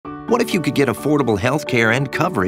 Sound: voiceover

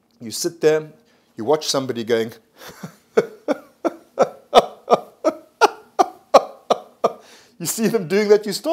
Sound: laughs

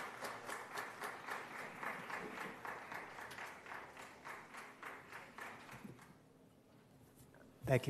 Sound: applause

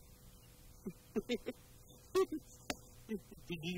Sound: giggles

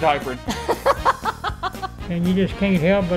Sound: laughs

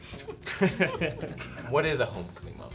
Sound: laughing

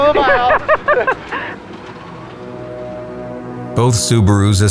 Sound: laughing

